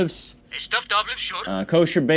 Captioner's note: phone